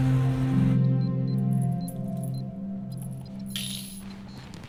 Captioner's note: game beeping